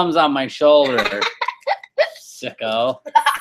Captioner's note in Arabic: يضحك